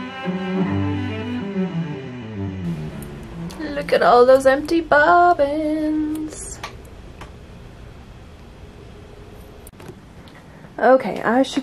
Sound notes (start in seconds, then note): 0.0 music fades out; 3.3 singsong voice